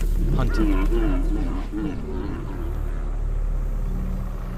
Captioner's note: water buffalo grunting; suspenseful music; truck rumbling